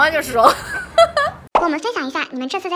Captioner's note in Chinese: 哈哈哈哈